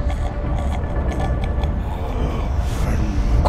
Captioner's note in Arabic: ثرثرة خشن